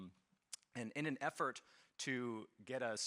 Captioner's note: none